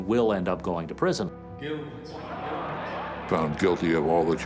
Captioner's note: crowd clamors